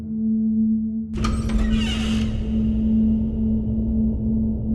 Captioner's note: foreboding music; door creaking